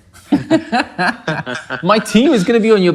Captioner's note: laughing